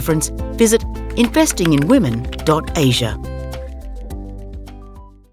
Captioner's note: keyboard clacking